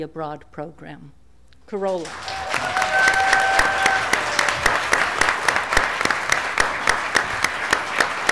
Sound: applause

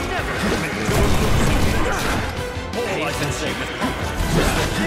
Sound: gunshots booming; characters groaning

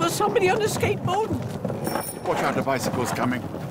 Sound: bike bell rings

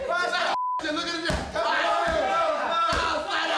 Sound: yelling

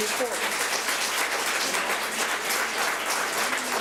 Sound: public applauding

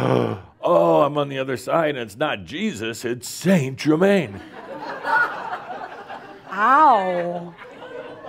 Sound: laughter

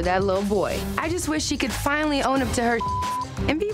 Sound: beep

